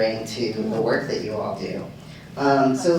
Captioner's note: none